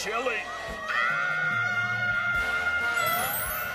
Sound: screams

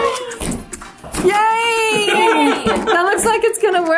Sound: laughs

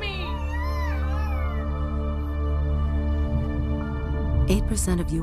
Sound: baby contines crying

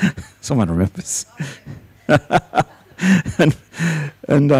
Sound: laughs; laughs loudly

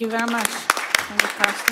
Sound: applause

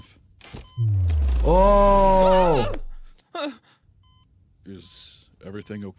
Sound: patient screams

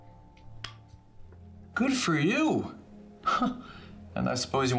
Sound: chuckles

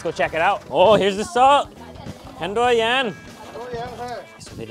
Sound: speaks in foreign language; speaker speaks in foreign language

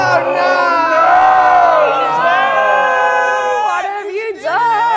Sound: screaming

